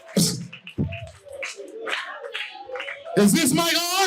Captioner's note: audience applauding